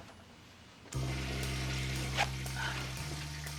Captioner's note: toilet flushing